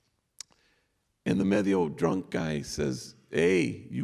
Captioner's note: non english speech